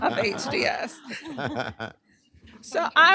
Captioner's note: laughter